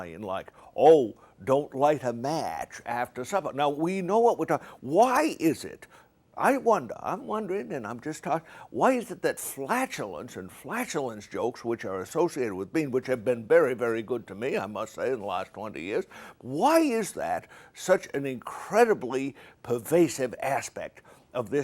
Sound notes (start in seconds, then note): none